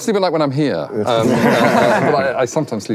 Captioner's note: laughing